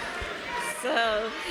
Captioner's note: cheering